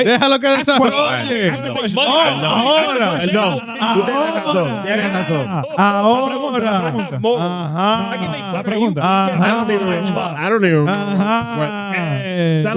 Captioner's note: speaking In Foreign Language